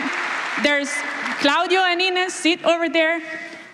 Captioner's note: applause